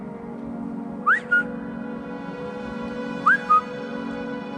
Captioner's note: whistling, echoing